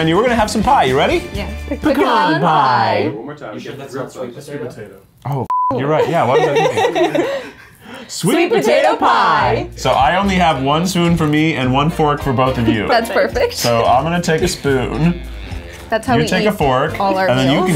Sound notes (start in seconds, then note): 5.5 beep